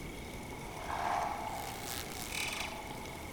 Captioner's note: insects buzzing